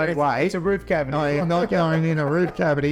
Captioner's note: laughs